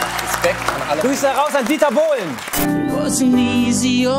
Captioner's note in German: Jubel